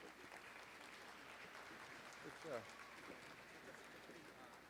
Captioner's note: audience applauding